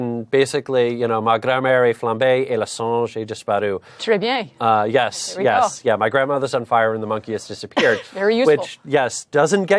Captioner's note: speaking in French